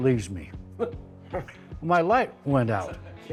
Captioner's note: group laughs